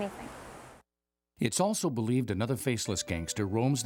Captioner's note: voiceover